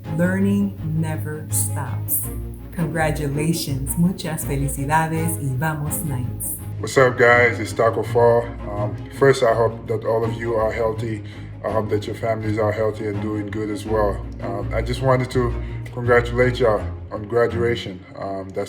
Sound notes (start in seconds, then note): 4.3 speaks in foreign language